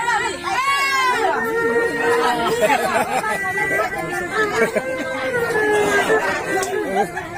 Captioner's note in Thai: เสียงหัวเราะ